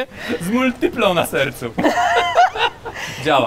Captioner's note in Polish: śmiech